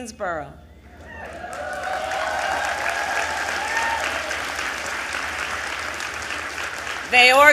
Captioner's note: applause